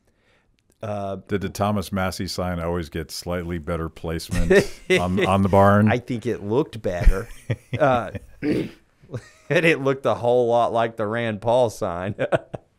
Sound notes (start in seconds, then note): 6.9 chuckling